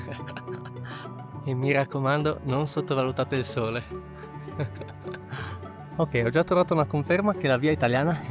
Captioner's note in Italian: risate